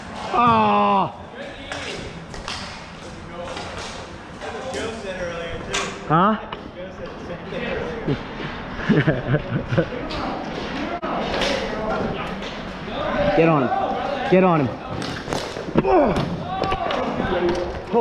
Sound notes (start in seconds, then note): 7.8 laughing; 15.8 grunting